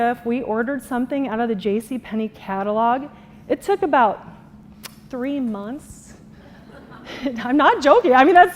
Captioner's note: laughter